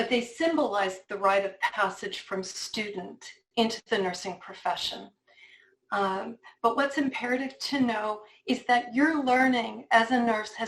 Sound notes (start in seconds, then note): none